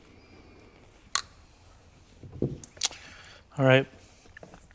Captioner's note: cutters clicking